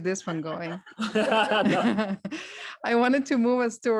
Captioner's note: laughter